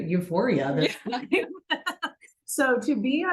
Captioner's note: both laughing